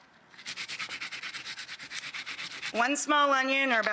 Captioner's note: grating